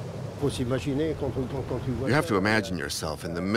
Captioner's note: speaking in foreign language